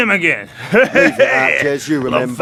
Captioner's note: laugh